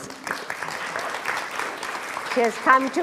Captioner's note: applauds